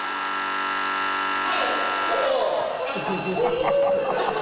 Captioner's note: groans; laughter